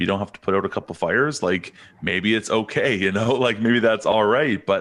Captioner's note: chuckles